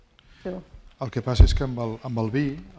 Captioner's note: speaking spanish